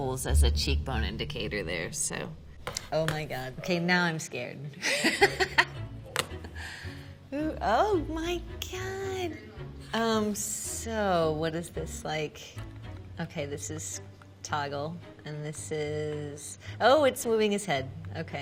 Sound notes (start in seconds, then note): 4.9 laughing